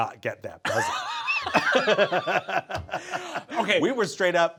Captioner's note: both laughing